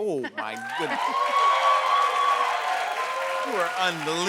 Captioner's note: cheers and applause